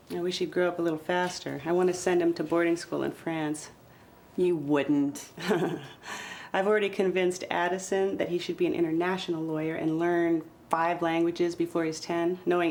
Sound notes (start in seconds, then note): 5.4 chuckles